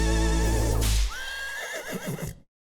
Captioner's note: horse neighing